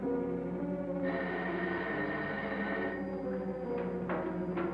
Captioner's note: phone ringing